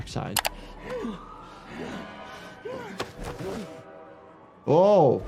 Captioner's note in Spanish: personajes gruñendo